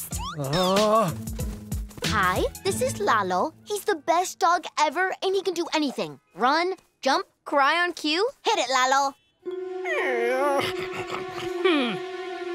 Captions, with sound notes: Oh. Hi, this is Lalo. He's the best dog ever, and he can do anything! Run, jump, cry on cue, hit it Lalo! [whimpering] Hm.